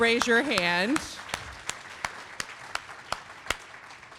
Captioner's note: applause